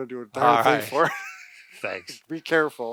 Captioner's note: both laugh